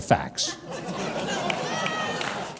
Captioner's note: audience laughing